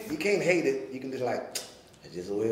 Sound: clicking

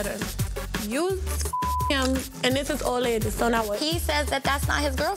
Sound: beep

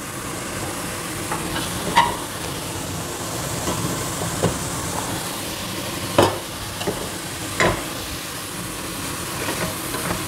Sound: kitchen noises: sizzling, rustling, squeaking

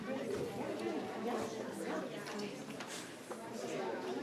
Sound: indistinct conversation

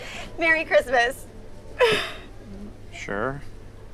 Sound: laughing

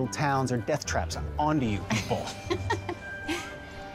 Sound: laughs

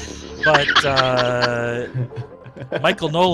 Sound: laughter

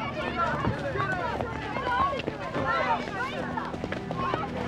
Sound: townspeople chatter; dramatic music

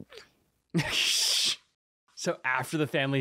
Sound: Thomas laughing

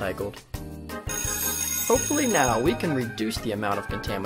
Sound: bell rings

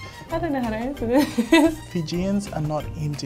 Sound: laughs

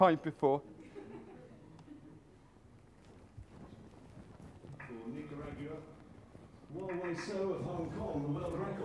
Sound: audience laughter

